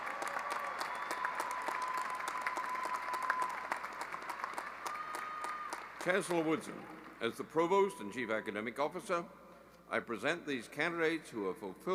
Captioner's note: cheering and applause